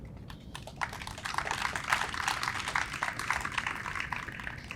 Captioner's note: audience applauds